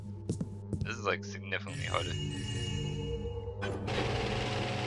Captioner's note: joyous chimes; loud machine whirring